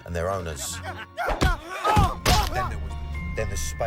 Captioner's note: man grunts